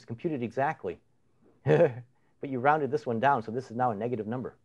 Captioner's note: chuckles